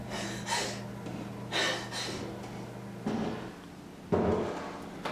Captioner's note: footsteps tapping